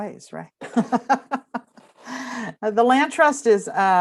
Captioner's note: laughs